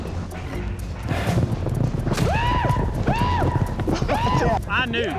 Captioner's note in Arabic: يصرخ